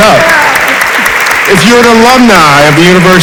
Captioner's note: audience applauds